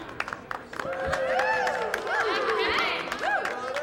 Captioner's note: cheers